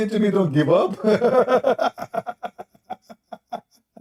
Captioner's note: Ketawa